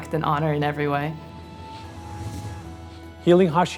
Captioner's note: whooshing